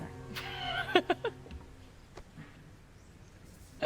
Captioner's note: Claire laughs